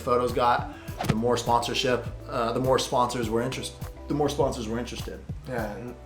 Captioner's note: stumbles over words